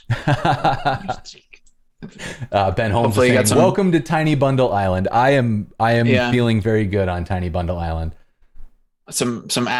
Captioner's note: laughter